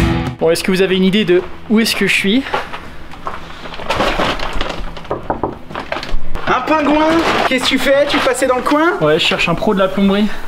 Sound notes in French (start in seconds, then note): 2.2 toc toc toc